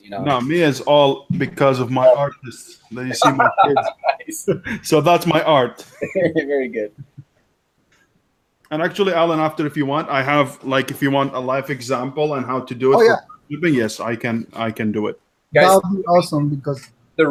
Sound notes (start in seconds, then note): 6.3 chuckles